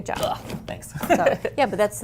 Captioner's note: chuckles